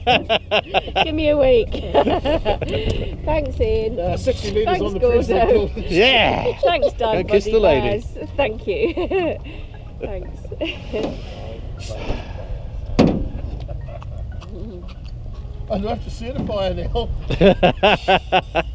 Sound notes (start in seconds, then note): 4.6 laughter